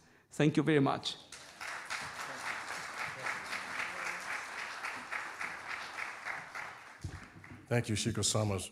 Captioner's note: audience applauding